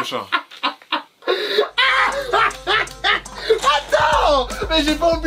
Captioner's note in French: rires